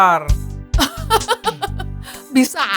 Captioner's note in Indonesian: tertawa